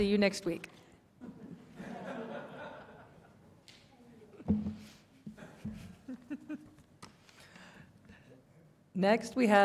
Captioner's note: laughter in the room